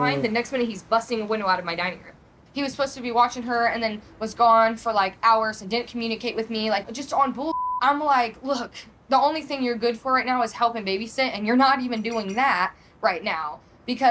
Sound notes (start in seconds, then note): 7.5 beep